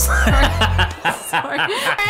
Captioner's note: lighthearted laughter